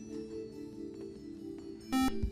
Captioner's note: buzzer